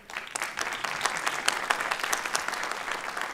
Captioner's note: applause